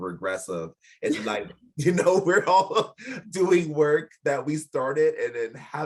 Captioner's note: laughing